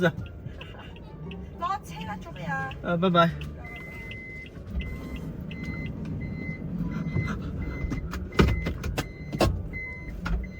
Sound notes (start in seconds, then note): 6.8 nervous breathing